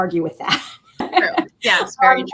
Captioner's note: laughter